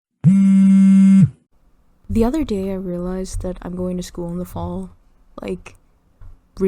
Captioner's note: phone buzzing noise